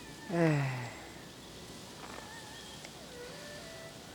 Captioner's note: sighing